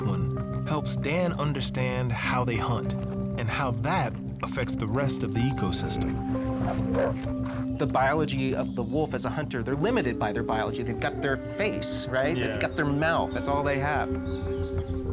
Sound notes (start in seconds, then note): 6.4 wolf growls